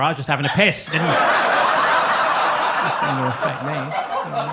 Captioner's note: audience laughs